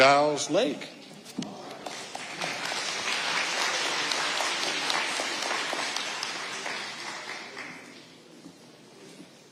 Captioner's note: audience applauding